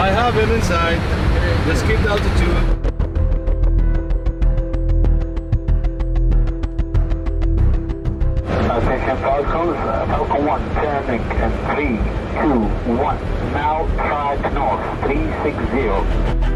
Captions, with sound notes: - Yes, I have him inside, let's keep altitude. (dramatic music) (pilot talking over radio)